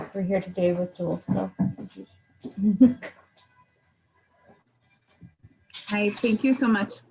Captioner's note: chuckles